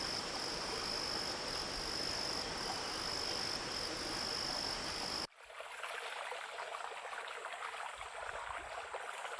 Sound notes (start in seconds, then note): 5.5 water babbling